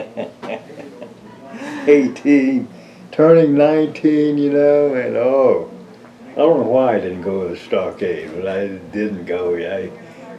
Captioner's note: laughs